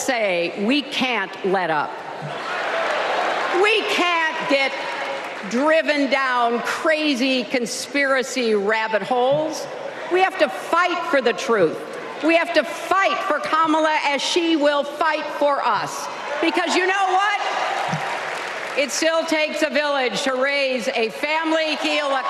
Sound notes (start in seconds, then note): 2.2 applause